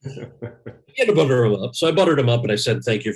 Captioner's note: laughs